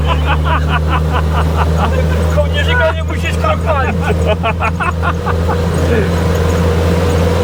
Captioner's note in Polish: śmiech